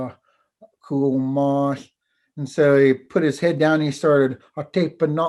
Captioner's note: foreign language